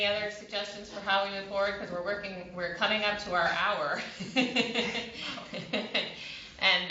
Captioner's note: laughter